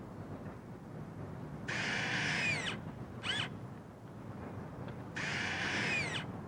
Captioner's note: drilling